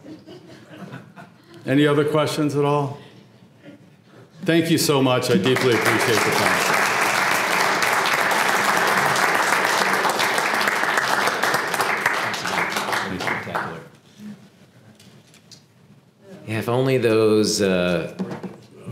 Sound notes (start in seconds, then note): 5.3 applause